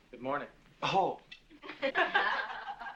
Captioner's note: women laugh